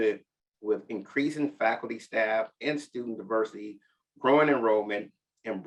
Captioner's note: none